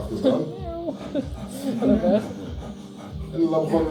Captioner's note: pants